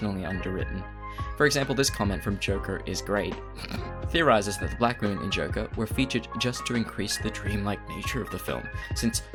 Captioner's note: snorts